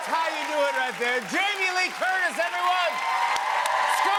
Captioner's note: cheers and applause